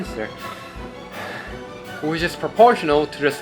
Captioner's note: catches breath